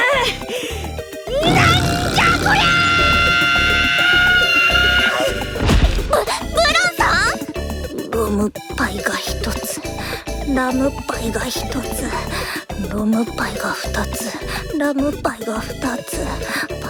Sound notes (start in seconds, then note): 5.5 thump